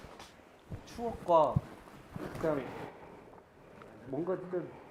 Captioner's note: is silent for a long while